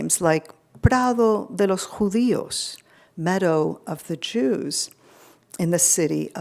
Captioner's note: speaking foreign language